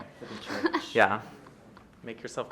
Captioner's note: woman laughing